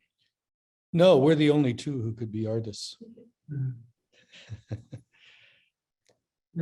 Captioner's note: laughs